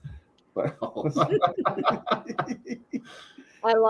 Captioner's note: laughter